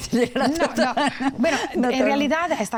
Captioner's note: laughs